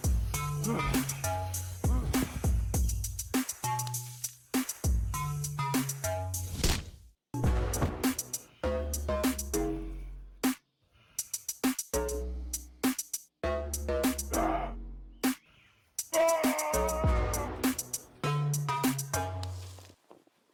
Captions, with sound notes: [Heavy breathing] [Body thud] Yeah! Aaahhhhhh!